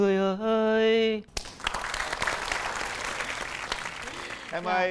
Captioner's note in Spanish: aplausos